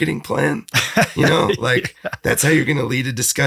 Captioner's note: laughs